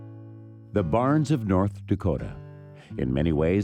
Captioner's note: voiceover